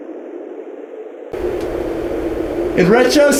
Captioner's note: howling wind